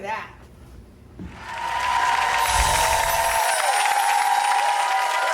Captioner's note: ghostly voices cheering